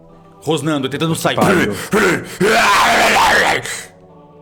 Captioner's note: roars violently